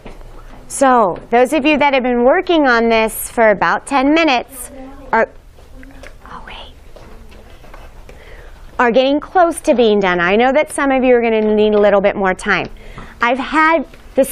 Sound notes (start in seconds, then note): 6.3 whispers